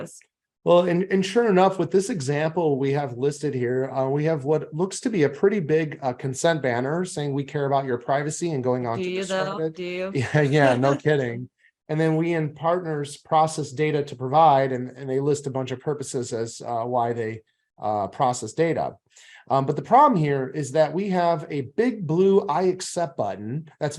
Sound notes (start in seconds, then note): 10.1 chuckles